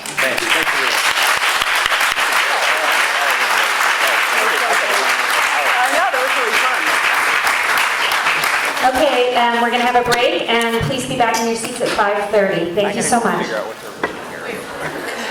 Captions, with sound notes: Thanks. Thank very much. [ Applause ] >> Okay. And we're going to have a break, and please be back in your seats at 5:30.